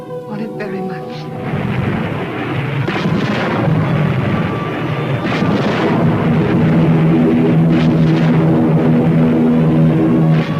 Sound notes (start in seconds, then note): 2.7 explosions booming; 6.7 plane engines roaring